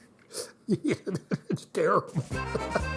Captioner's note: chuckle; upbeat music